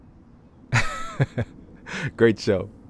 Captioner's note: laughing